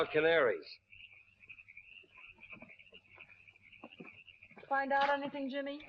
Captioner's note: crickets chirping